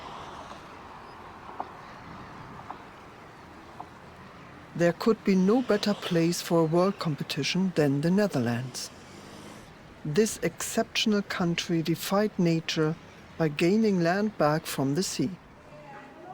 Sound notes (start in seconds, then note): 0.0 airplane engine hums; 3.5 water swishing